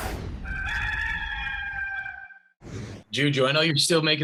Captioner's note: rooster crows